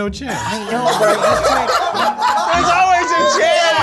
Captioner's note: all laugh